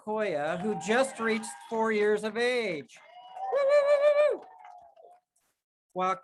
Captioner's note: cheers